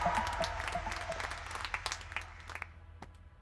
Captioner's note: clapping stops